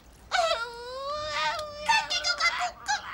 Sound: sobbing

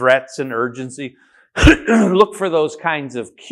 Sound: coughing

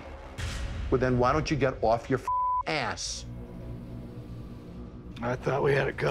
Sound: beep

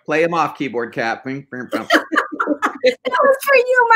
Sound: laughing

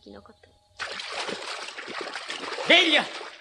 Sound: SFX: splashing

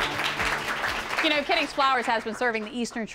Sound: applause

